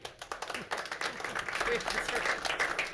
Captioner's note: claps